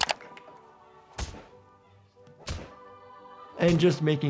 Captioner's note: object thumping